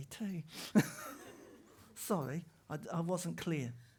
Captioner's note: laughter